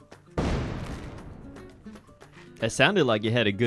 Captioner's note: explosion sound effect